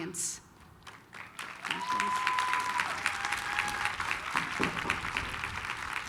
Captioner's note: applause, cheering